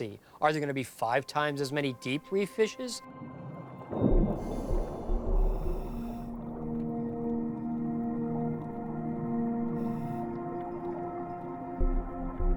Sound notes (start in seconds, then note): 3.9 divers submerging; 6.9 tranquil music